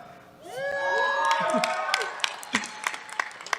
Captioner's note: cheers